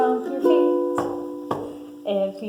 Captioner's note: stomping